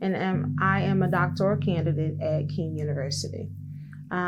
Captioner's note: none